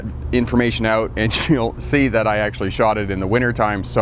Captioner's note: laughs